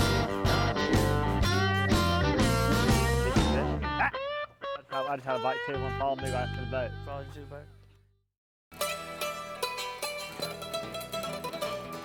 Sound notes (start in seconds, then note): 3.2 chatter; 8.7 bluegrass music